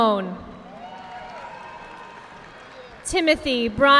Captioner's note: audience clapping